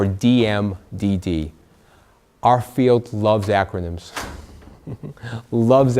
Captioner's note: laughs